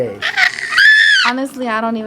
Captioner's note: child shrieks